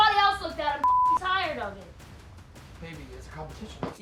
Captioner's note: beep